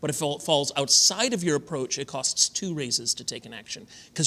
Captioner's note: none